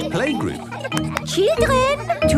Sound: clapping

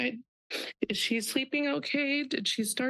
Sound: sniffle

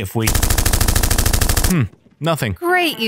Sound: gun fire

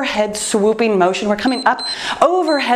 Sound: timer beeps

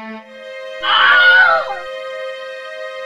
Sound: Wilhelm Scream

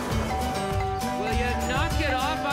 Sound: doorbell sounding repeatedly

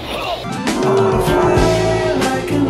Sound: death growl

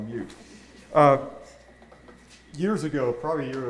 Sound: audience laughing

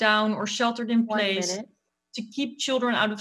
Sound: computer Timer

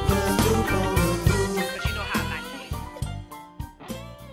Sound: woman on phone

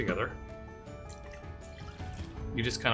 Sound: milk sloshing

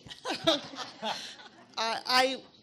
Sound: audience chuckles

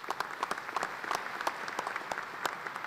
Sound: applause

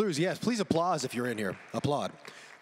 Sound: audience claps

